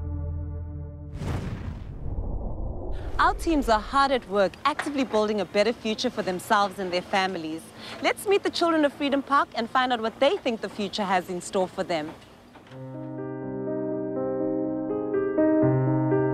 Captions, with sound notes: (whooshing air) - Our teams are hard at work, actively building a better future for themselves and their families. Let's meet the children of Freedom Park and find out what they think the future has in store for them. (pleasant piano playing)